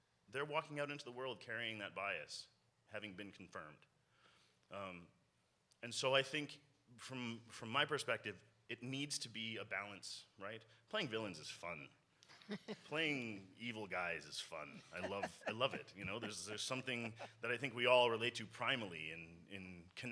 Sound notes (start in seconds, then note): 12.9 panel member laughs; 15.0 panel member laughs